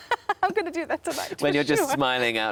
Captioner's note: laughs